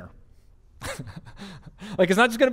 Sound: pastor: Laughter

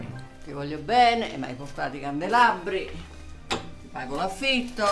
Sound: speaking in Italian

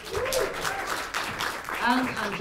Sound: applause

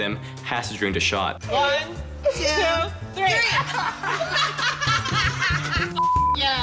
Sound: laughter

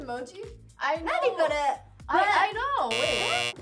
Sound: speaking Korean

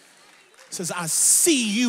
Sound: audience applauds

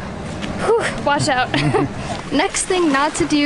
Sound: laughs

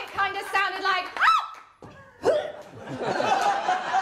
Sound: screams, pop, gag; laughter

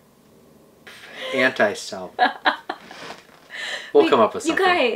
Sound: laughs

